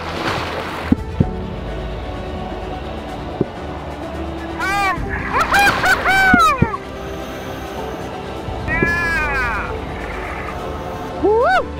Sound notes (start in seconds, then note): 0.2 water splashes; 4.3 men cheer